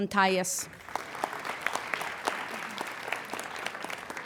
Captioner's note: applauding